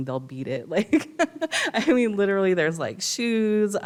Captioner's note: laughs